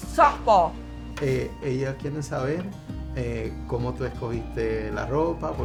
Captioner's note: speaking Spanish